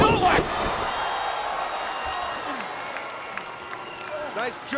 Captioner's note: audience cheering and clapping